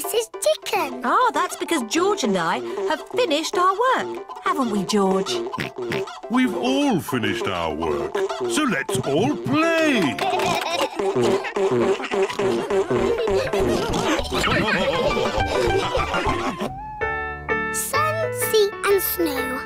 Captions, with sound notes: Ah, that's because George and I have finished our work! -Haven't we, George? -(OINKS) We've all finished our work, so let's all play! (ALL LAUGH)